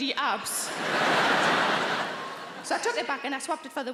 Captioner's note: audience laughing